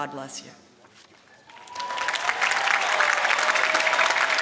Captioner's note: applause